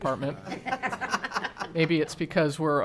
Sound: laughing

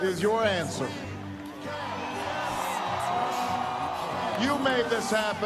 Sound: “Yes we can” repeated in background

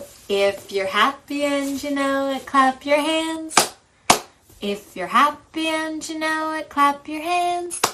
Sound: clap clap!

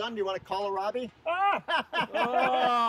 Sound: men laughing

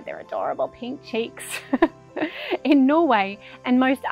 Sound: laughs

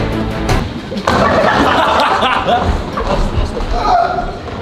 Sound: lads laughing

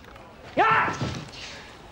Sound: screams

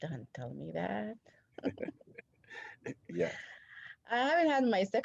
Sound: laughter

